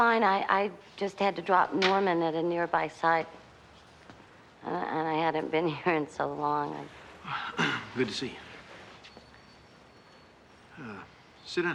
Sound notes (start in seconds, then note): 7.4 clears throat